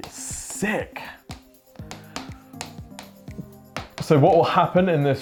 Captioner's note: marker tapping